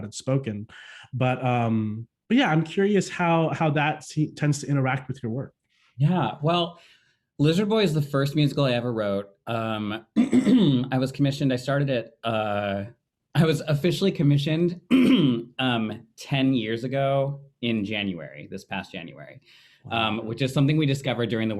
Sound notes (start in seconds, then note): 10.1 clearing throat; 14.8 clearing throat